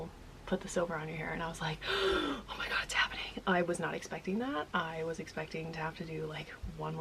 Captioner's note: gasp